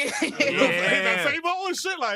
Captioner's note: laughs